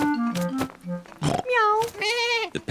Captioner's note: all makes animal sounds